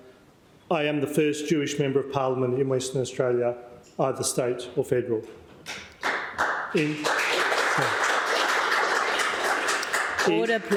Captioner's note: applause